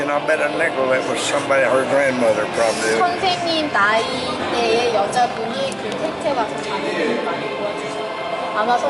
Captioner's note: koreans speaking